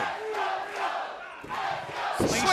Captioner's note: fans chanting